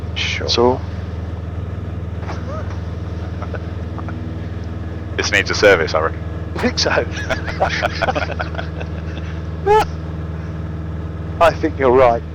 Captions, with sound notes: Sure. It's a need to service, I reckon. I think so. [LAUGHTER] I think you're right.